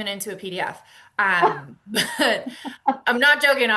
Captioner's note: laughter